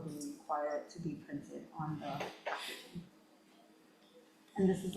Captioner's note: faintly speaking